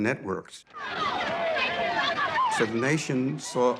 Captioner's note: crowd shouting